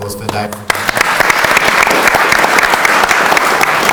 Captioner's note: audience applauds